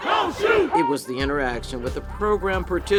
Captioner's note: crowd